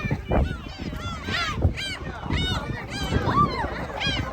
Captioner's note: laughs